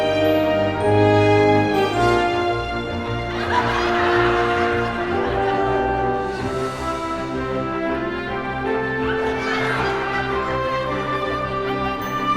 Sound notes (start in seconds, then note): 2.9 laughing continues